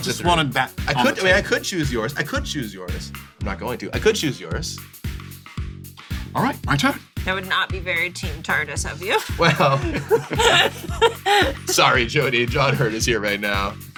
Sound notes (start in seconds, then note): 3.3 secret voice; 9.0 laughs